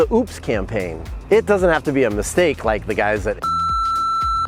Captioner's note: beep